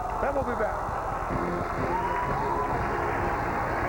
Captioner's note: cheers and applause